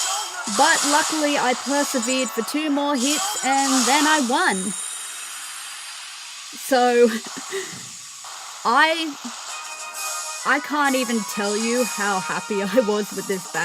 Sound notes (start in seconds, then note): 5.2 laughter